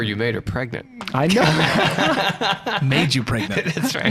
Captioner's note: laughing